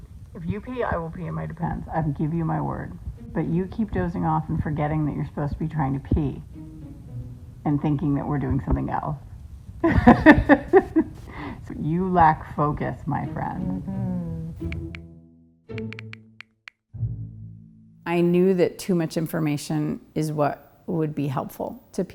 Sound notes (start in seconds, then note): 9.9 laughing